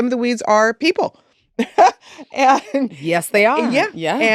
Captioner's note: laughs